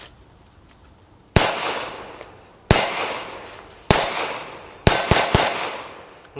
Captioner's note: gun fires